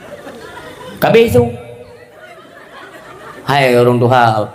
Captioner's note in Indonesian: tertawa